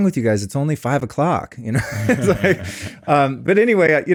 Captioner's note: both laughing